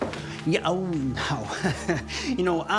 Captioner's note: laughs